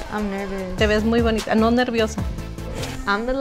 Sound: speaks in foreign language

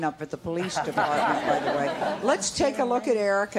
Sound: audience laughs

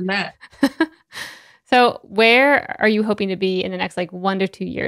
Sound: laughs

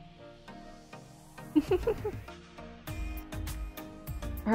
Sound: laughs

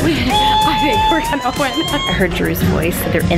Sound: squealing

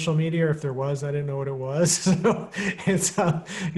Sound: chuckling

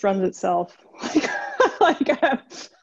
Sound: laughing

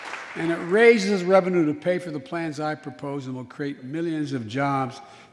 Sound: applause

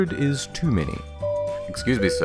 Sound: bing

